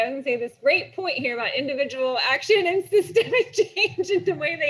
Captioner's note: laughs